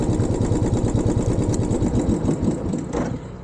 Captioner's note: bike engine turning off